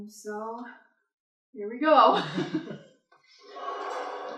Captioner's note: chuckles